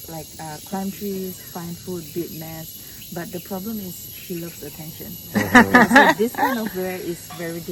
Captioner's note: laughter